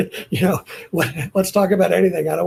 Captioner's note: laughing